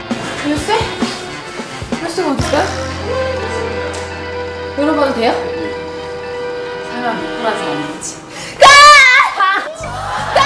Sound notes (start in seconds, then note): 8.6 screams